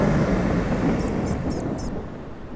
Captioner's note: mice squeaking